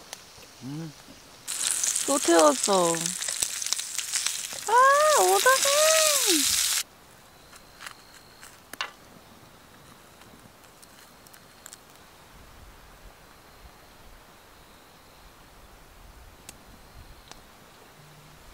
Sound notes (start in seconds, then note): 3.2 sighing